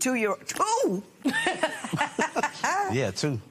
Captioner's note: laughs